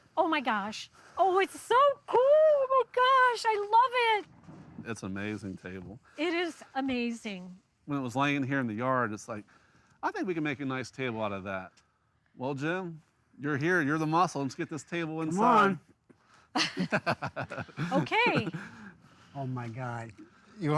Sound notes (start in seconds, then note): 16.6 everyone chuckles